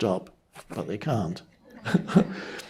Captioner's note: chuckles